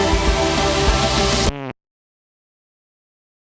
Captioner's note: sharp Fart SFX